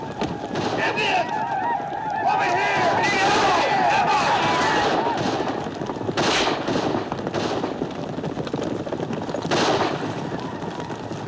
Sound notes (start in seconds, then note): 3.3 men shouting